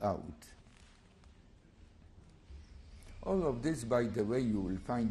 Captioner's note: pauses for 3 seconds